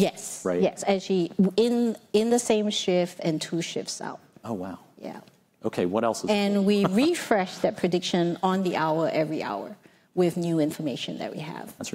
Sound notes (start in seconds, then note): 6.7 laughs